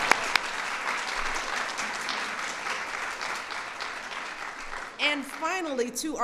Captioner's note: applause